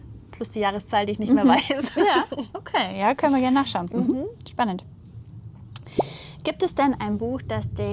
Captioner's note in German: gelächter